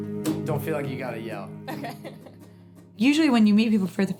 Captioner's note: laughing